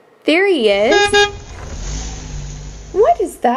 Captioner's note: horn beeps